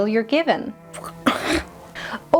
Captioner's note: scoffs